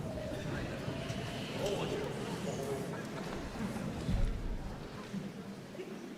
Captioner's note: audience members chattering indistinctly